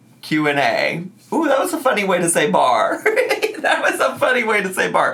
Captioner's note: laughs